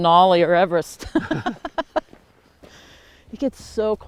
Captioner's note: both laughing